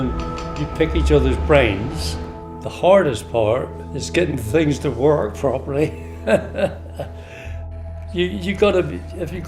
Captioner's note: laughs